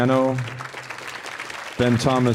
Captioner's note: audience applauding